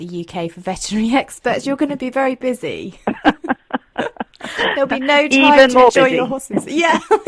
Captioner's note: laughs